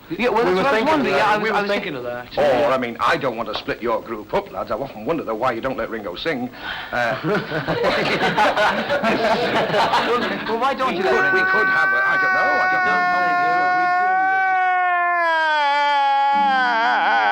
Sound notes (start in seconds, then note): 7.1 laughter